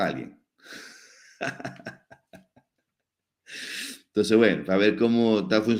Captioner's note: laughs